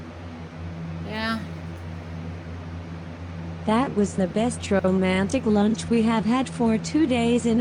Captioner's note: normal voice